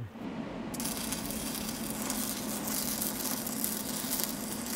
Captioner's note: welder sputtering